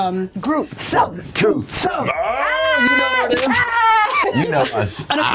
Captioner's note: chanting; sounds of delight